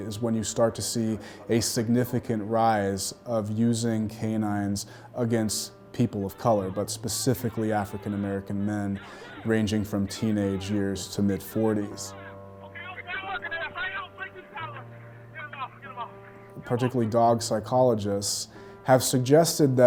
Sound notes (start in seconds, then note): 12.6 man yelling